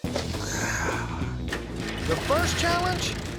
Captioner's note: exhales